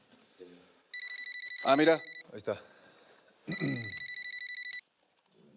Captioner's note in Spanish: Suena el celular